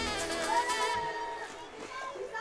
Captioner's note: girls cheering